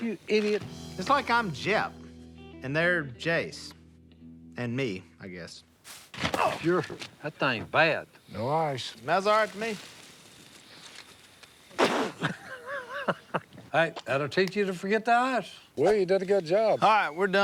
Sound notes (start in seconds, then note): 10.3 spits; 11.8 laughs